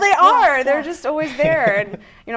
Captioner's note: laughing